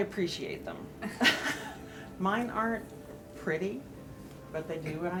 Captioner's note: chuckles